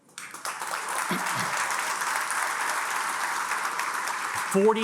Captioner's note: attendees applauding